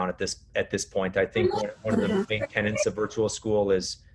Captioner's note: murmurs